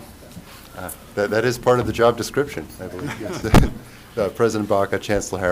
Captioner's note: laughter